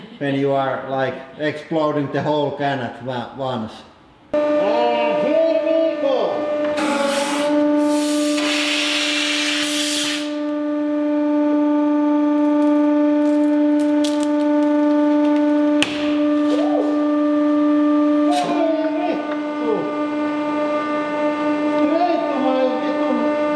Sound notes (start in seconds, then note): 6.5 mechanical whirr; 7.8 pssshhhhhhSHHHHHHHT; 15.8 small explosion